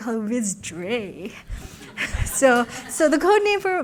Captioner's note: laughter